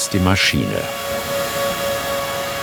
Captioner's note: machine whirring